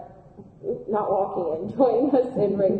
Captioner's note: laughing